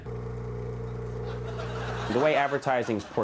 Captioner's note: laughing